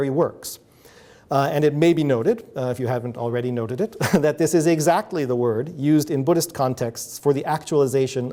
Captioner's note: chuckles